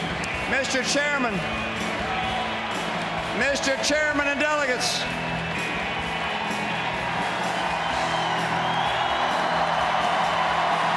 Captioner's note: applause and music; applause